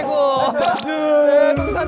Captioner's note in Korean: 뿌직